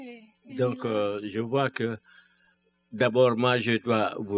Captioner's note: speaking french